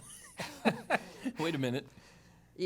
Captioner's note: laughter